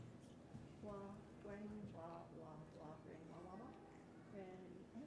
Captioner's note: speaking softly